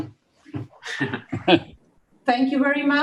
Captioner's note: laugh